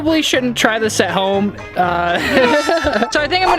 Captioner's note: laughing